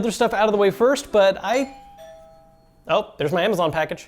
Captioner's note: doorbell rings